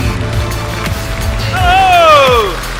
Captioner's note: applause